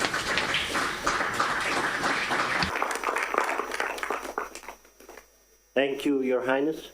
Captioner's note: applause